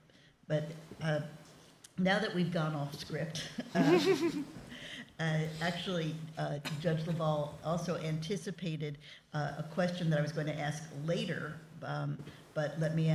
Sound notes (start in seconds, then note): 3.6 chuckling